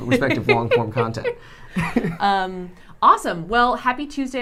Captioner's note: both laughing